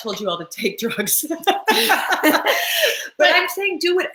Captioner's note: laugh